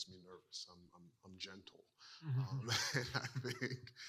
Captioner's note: laughs